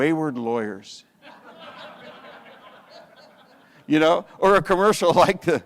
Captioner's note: audience laughs